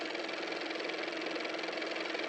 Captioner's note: car motor